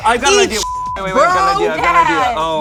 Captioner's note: beep